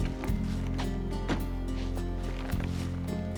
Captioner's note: car door closes